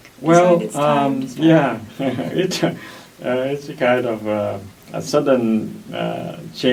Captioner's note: laughs